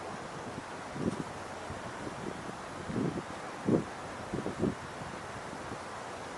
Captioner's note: speaker crackling